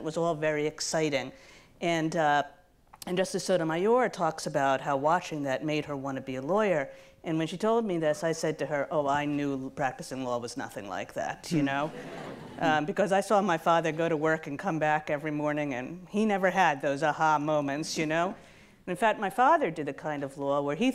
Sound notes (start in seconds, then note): 11.8 audience laughs